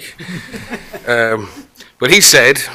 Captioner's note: laughter